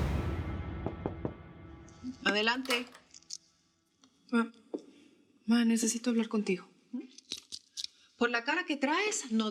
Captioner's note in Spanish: toques en la puerta